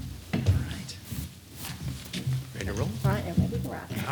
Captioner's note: distant chatter